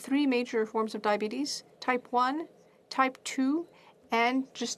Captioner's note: speaking French